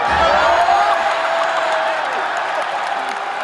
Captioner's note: crowd cheers